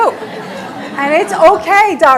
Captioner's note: audience laughing